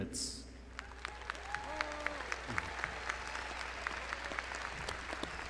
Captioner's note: crowd applauding